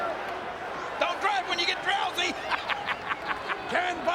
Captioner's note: laughing